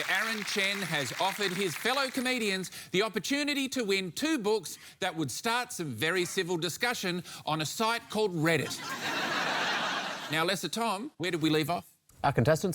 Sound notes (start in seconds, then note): 8.6 laughter